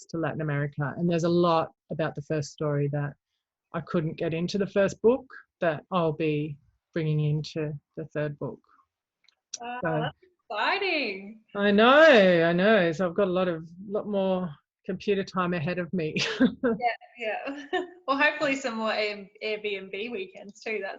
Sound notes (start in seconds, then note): 9.6 exclaims; 17.4 laughs